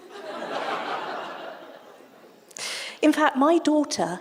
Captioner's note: audience laughter